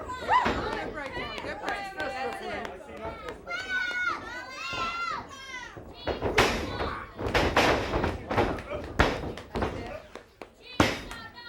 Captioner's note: crowd cheers